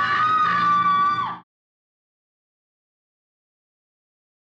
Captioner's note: eerie music; woman screaming